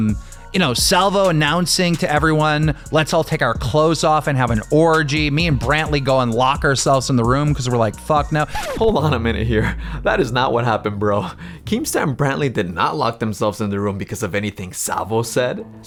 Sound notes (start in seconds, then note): 11.1 chuckles